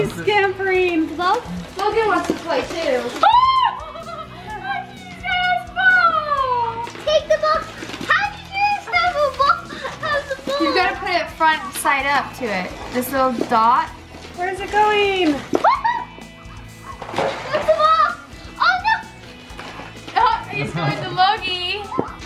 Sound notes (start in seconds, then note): 3.1 squealing in excitement